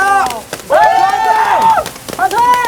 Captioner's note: cheering & screaming